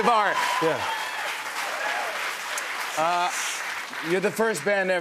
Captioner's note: applause